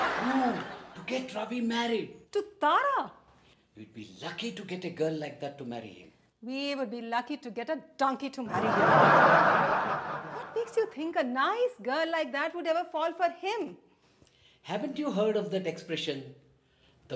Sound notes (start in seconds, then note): 0.0 audience laughs; 8.5 audience laughs